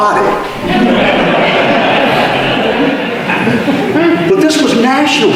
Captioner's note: audience laughter